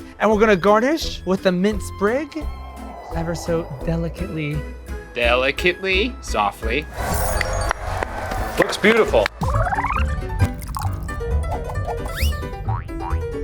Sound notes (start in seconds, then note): 6.9 crowd cheers; 10.3 upbeat piano music